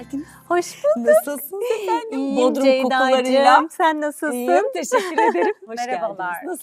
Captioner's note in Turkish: kahkaha